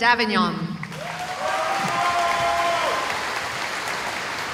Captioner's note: cheering